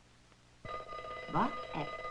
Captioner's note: alarm clock ringing